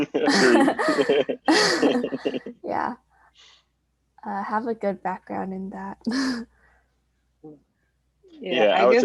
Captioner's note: laughing